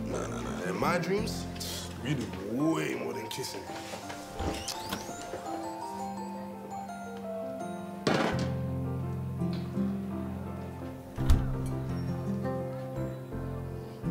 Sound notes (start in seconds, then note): 4.2 door squeaking; 8.2 bottle clattering; 11.1 door thudding